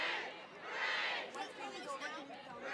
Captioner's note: chatter